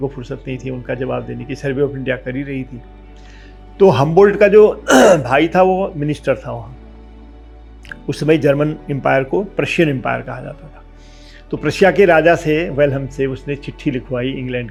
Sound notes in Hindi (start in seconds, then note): 4.8 गला साफ़ करने की आवाज़